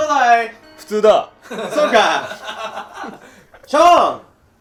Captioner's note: laughing